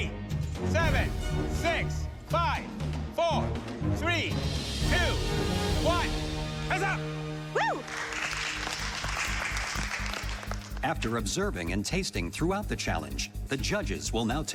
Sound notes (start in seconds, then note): 7.7 everyone applauding